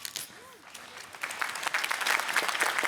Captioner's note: applause